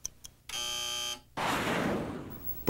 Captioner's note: buzzer